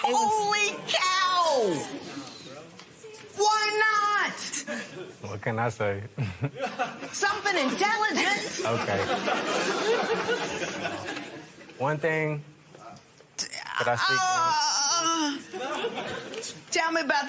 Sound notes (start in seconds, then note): 10.9 laughter